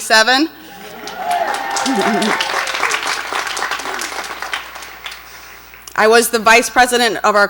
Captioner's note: audience cheers and applauds; laughs